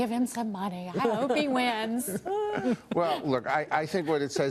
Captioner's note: laughter